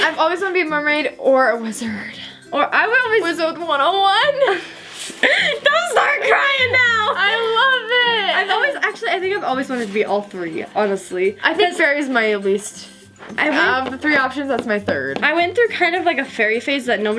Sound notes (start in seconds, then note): 5.2 laughing